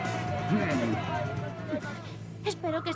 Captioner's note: crowd cheering; growling